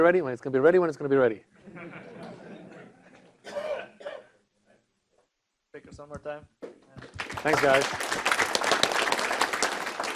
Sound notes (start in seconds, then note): 7.0 applause